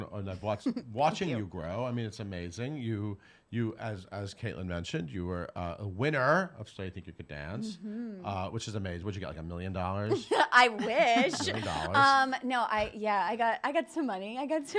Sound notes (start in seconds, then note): 10.7 laughs